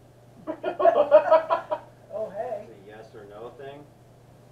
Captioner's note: laughter